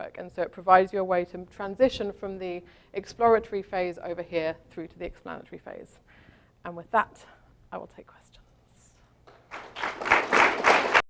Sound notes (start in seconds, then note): 9.3 applause